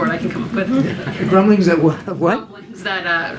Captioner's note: laughter